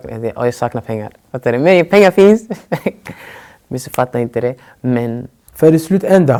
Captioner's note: laughs